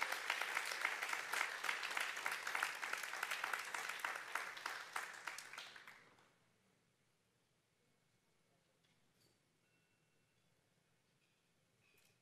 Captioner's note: applause